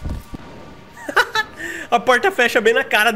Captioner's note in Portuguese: risos